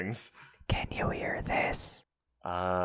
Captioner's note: whispering